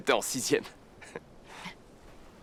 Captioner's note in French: rires